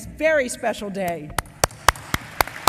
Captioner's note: applause